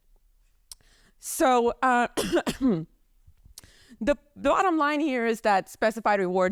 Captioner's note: coughs